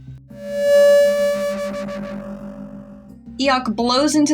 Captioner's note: mic Feedback